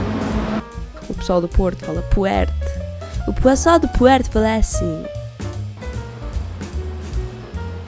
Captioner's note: imitate northern accent